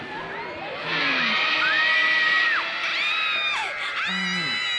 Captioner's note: kids screaming